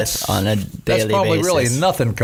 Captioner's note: none